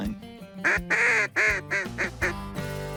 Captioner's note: duck calls